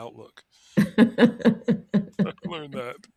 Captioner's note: laughing